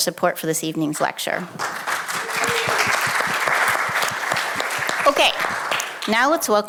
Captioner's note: audience clapping